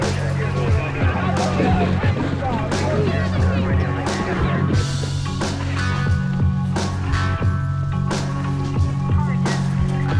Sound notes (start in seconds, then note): 0.0 people chattering